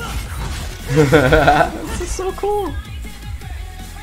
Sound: laughter

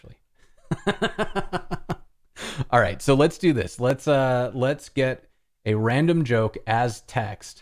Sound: laughter

